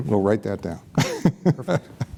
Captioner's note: laughs